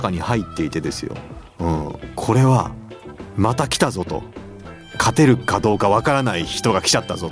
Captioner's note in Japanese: 鼻息